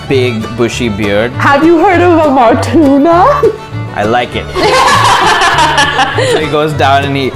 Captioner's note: laughter